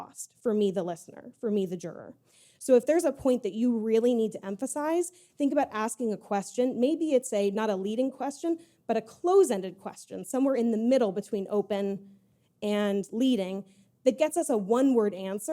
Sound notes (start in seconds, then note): none